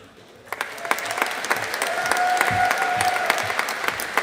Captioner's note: audience applauding